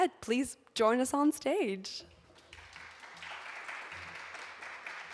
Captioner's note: audience applauding